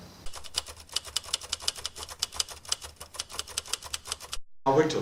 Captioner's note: typewriter clicking